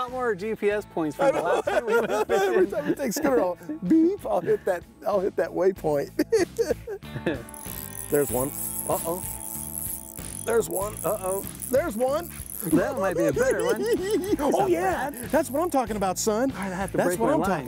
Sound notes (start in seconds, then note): 12.3 cackling